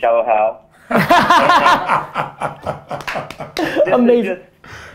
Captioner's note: group laughter